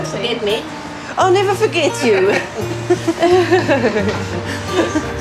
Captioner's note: laughs